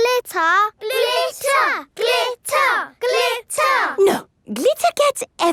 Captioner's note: chanting